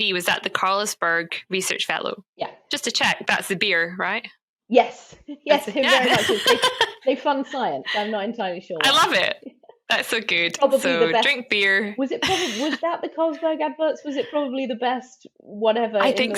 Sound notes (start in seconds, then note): 5.8 laughing